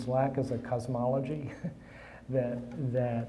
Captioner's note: chuckling